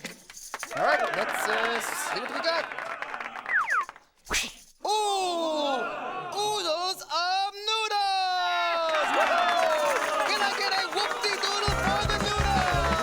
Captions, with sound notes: All right, let's see what we've got. Ooh... oodles of noodles! ( cheering and applause ) Can I get a whoop-de-doodle for the noodles?!